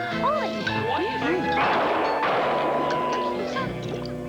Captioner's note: two gunshots